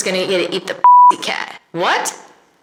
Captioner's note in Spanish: bip